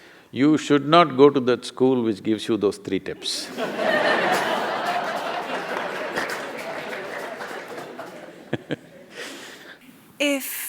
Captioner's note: laughter